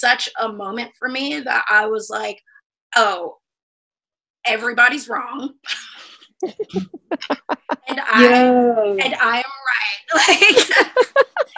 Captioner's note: laughter